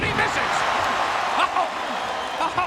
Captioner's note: audience cheering